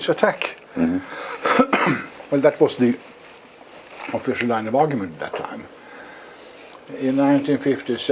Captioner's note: cough